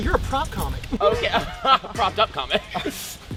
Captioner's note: laughs